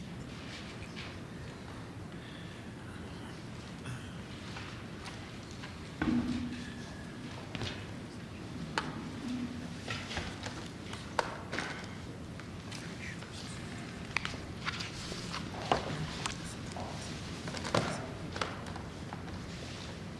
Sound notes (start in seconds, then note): 6.0 whispering